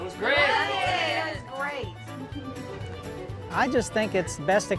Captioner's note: in unison "It was great!"; in unison "We loved it!"